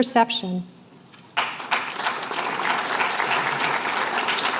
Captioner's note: applause